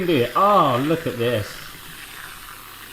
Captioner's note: spraying